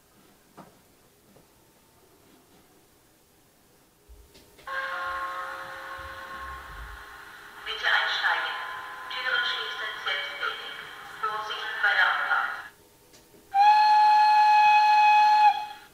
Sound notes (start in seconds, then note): 4.6 gong and announcement from the railcar; 13.5 long whistle